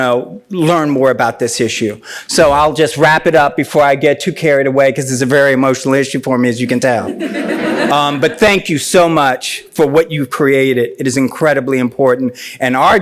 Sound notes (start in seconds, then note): 7.0 laughs